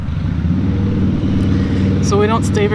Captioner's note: engine whirring